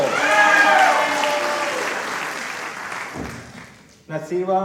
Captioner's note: applause